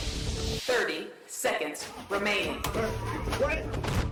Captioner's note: computer over speaker